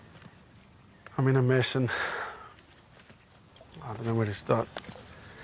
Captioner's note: sighs; exhales